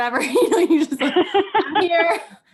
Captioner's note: laughing